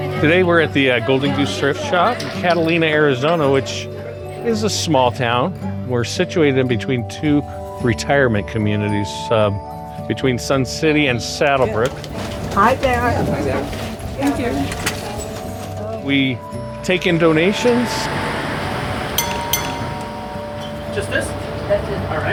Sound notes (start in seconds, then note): 19.2 doorbell